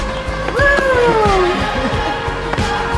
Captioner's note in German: Lachen